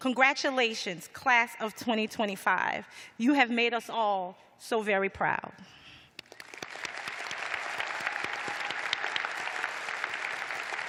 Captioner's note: applause